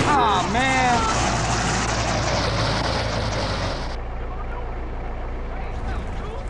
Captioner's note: crashing into another vehicles